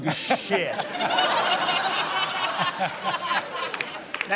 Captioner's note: laughter